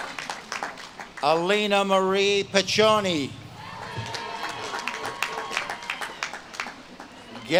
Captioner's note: audience claps and cheers